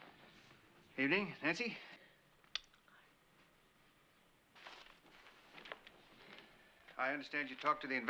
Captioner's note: whispering